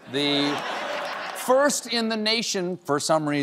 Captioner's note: laughter